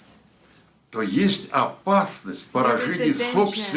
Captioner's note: foreign language